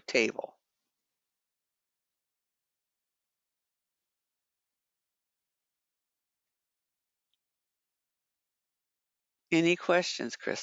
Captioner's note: 8 seconds pause